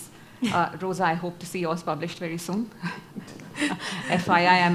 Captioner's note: laughs